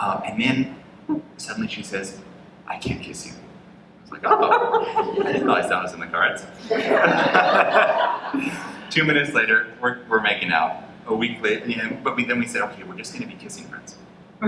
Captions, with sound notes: And then suddenly she says, "I can't kiss you." I'm like, "Oh, I didn't know that was in the cards." (laughter) Two minutes later, we're making out, but we said we're just gonna be kissing friends.